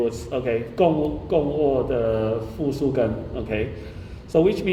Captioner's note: speaking in foreign language